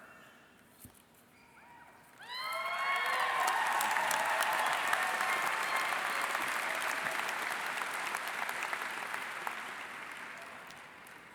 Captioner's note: cheering and Applause